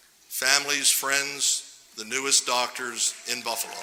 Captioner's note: applause